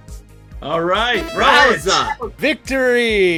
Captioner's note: machine bleeps